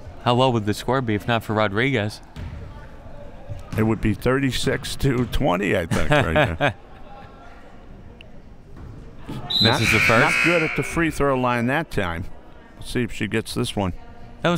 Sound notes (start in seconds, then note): 9.4 whistle; 9.5 buzzer